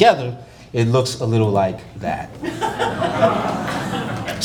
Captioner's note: laughter